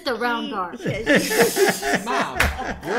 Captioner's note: laughter